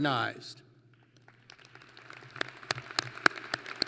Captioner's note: applause